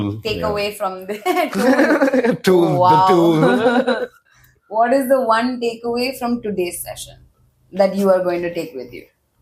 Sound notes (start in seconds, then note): 1.4 laughs